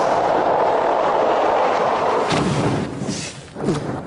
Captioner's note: tires skidding in snow